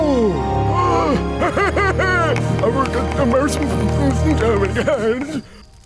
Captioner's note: speaks excitedly in gibberish